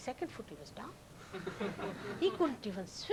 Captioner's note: laughter